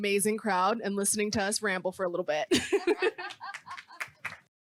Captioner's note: laughs